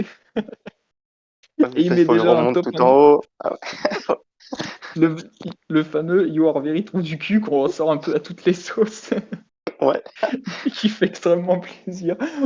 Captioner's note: laugh